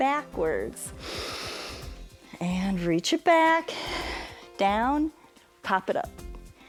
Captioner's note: inhales